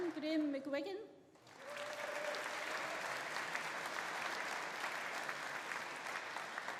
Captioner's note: audience applauding; audience cheering